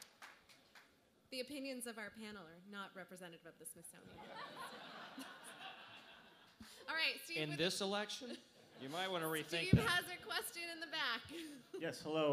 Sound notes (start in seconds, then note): 4.1 laughter